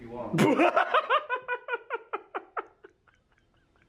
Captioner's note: laughs